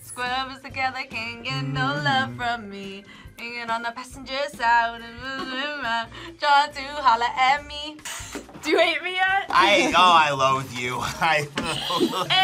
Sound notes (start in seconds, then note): 5.4 hums; 11.6 laughs